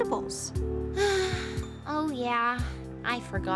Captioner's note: sighing